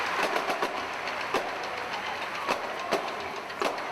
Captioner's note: applause